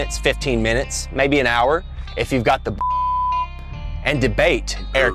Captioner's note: pitido